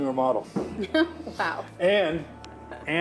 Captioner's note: laughs